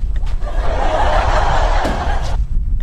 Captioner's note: laughter